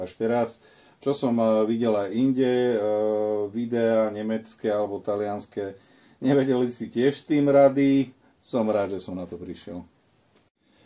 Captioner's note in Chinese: 德语，意大利语